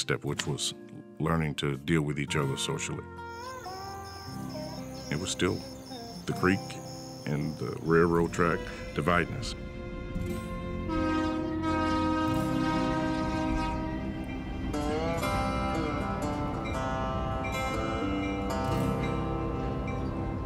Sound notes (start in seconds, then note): 3.2 insects chirping; 10.8 train horn blows; 14.3 train bell ringing